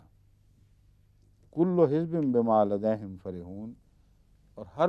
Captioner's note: Arabic